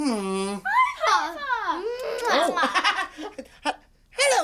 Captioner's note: laughing